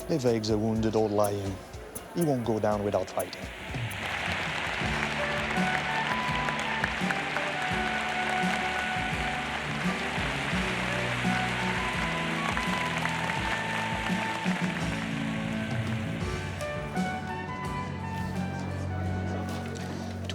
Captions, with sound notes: - If eggs are wounded or lying, he won't go down without fighting. (pleasant upbeat music) (audience applauds) (tense brooding music)